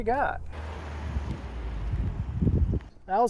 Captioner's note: engine sound